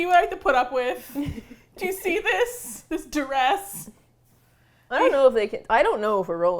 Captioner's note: laughing; laughs